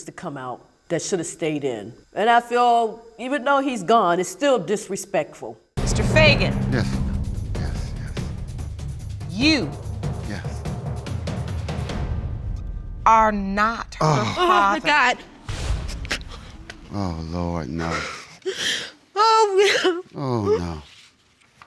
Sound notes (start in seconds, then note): 19.2 crying